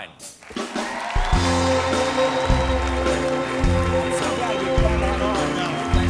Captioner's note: cheers and applause